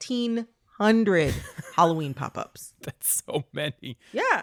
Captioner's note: laughter